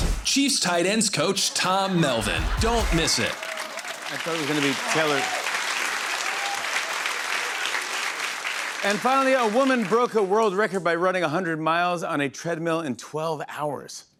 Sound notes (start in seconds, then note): 6.4 applause